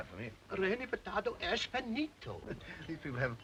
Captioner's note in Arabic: رودولف يتحدث لغة أجنبية